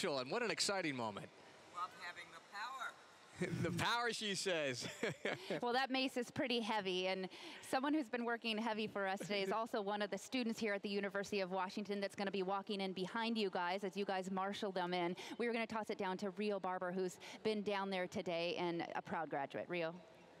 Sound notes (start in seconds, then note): 4.7 laughter